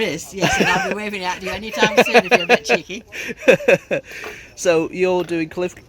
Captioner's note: giggles